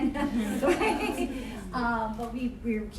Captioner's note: laughing